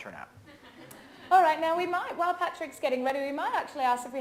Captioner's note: audience laughs